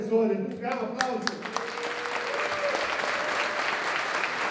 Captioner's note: applause